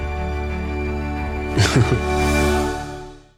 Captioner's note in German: lacht